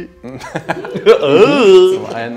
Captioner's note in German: Lachen